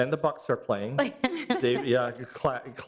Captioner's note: laughing